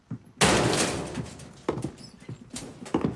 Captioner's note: metal door slamming